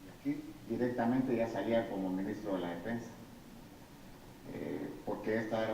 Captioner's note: speaking in foreign language